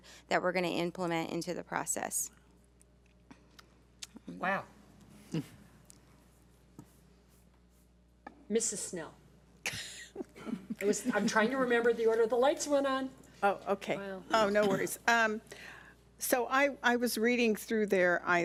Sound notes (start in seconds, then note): 9.9 laughs